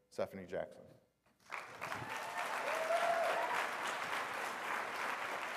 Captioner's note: applause